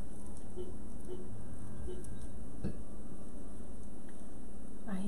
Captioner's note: car alarm beeping